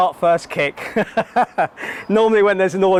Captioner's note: laughter